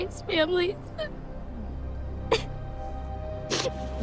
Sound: whimpers, sobbing

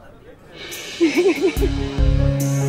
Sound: Bani crying

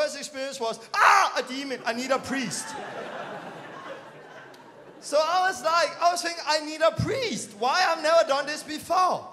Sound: laughing

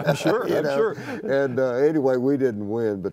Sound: laughter

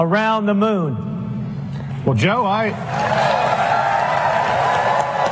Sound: applause

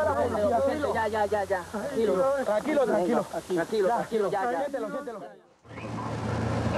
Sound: Spanish spoken audio

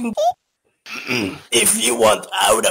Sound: Chimi clears his throat

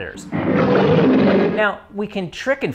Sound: roar

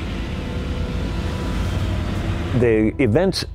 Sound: tank engine revving; dramatic music

